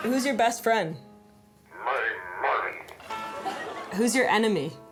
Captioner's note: electronic voice